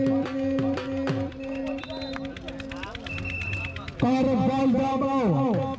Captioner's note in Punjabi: ਤਾੜੀਆਂ